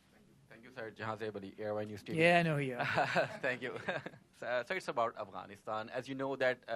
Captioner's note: laughter